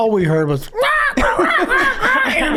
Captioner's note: makes bird noises